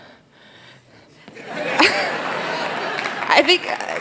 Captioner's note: laughter; applause